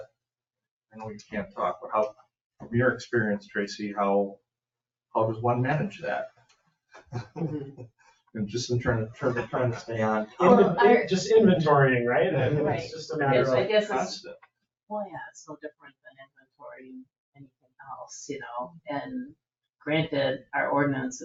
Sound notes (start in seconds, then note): 5.0 members chuckling